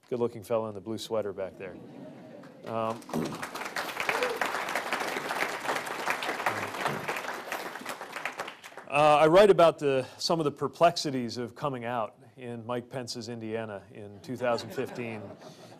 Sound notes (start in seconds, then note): 2.4 applause